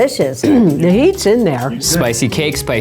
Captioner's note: clears throat